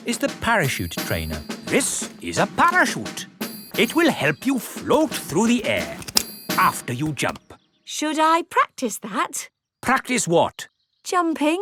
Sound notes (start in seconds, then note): 6.0 clicking